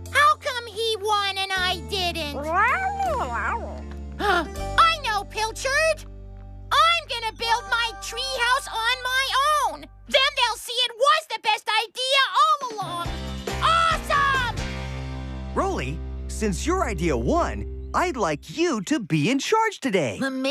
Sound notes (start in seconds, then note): 2.4 meows; 4.1 gasps